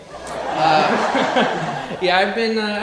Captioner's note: audience laughing